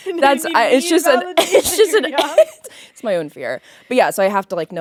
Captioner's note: laughing